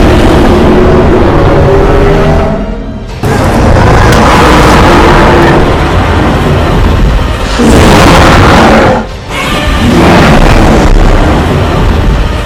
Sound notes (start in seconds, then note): 1.4 Godzilla and Kong Roaring loudly